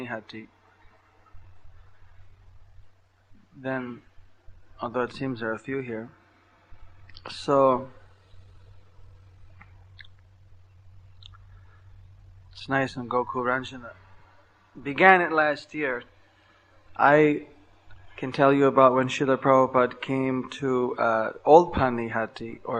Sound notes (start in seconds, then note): none